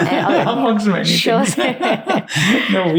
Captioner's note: laughing